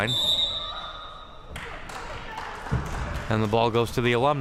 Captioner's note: whistle chirping